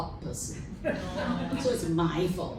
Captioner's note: laughter